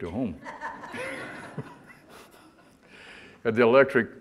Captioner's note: audience laughter